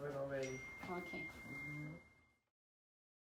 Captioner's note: Suena una notificación en el teléfono